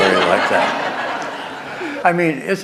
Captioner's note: laughter